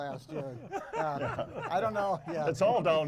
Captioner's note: hosts laughing